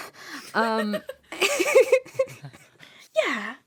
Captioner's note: laughter